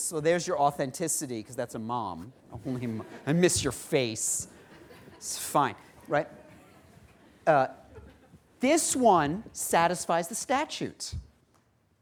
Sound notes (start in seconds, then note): 4.4 laughter